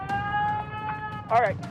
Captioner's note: wailing